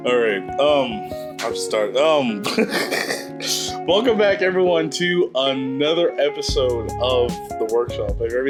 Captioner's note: laughs; laughs